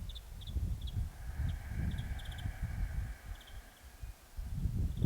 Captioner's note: exhales deeply